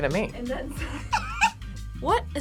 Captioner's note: both laugh